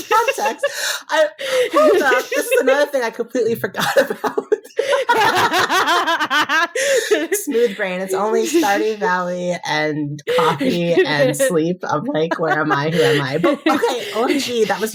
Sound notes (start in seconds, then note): 4.6 more laughing